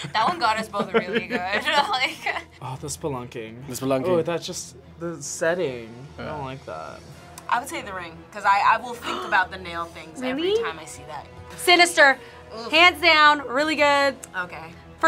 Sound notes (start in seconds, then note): 0.0 laughs; 10.4 gasps